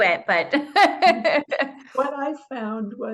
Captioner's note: laughs